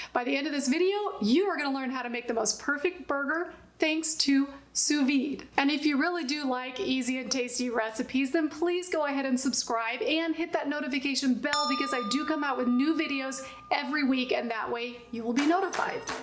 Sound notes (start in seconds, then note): 11.5 bell chiming